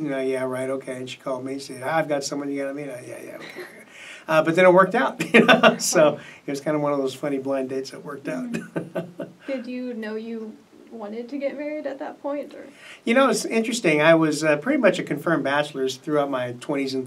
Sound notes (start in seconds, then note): 5.2 laughs; 8.3 laughs